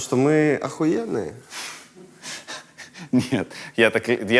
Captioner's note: laughs